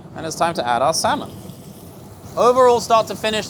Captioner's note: salmon sizzles